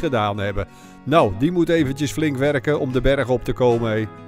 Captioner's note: voiceover